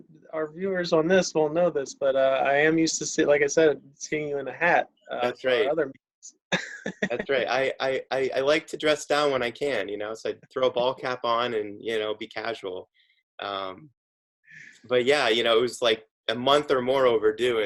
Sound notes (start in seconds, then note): 6.6 laughs